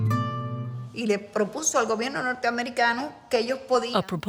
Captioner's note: speaking in Spanish